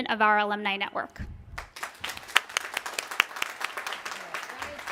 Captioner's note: applause